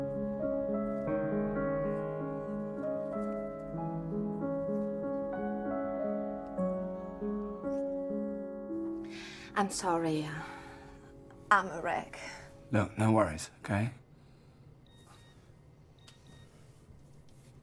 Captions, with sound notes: - I'm sorry. I'm a wreck. - Look, no worries, okay? (beeping)